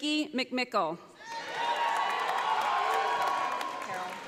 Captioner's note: audience applauding